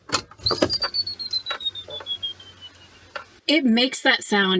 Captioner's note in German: geheimnisvoller Piepton